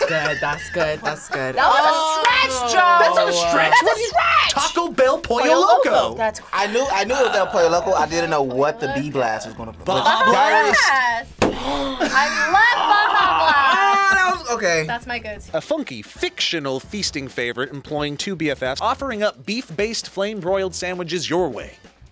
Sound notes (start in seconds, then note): 11.5 gasps